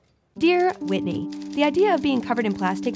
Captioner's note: narrating